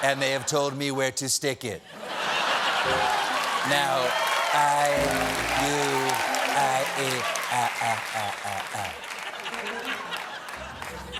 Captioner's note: laughter